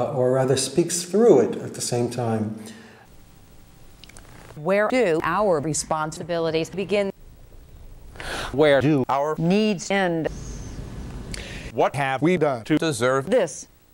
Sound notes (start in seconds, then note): 2.6 man takes a breath; 8.1 man takes a breath; 11.3 woman takes a breath